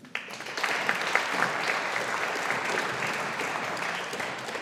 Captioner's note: audience applauding